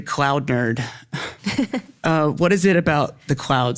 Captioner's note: laughs